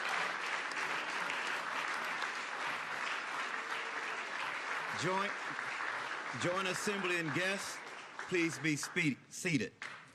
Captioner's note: applause